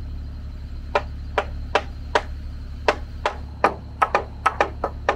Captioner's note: hammer tapping; both hammers tapping